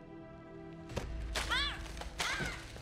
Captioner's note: Alejandra shouts